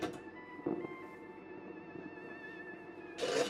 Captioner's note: door closes